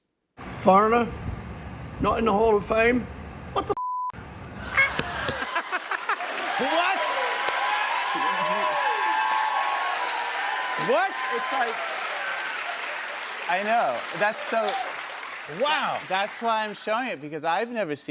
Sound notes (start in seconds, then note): 4.6 laughter; 8.2 cheers and applause